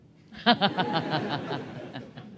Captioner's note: laughter